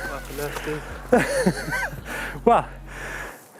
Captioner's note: laughs